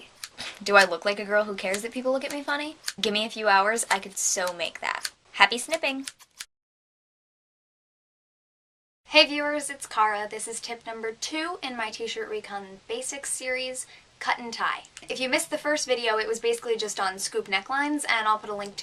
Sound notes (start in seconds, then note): 5.5 sound effect: scissors cutting